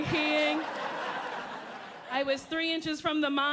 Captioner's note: audience laughing